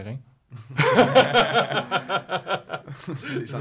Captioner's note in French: rires